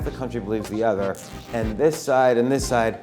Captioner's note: ripping sound